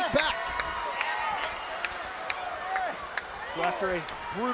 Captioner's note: crowd cheering